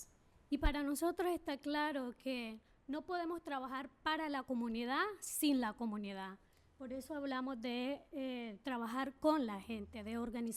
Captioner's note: speaking spanish